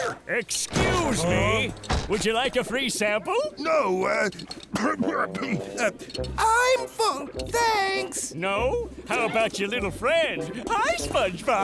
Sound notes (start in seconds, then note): 4.6 coughing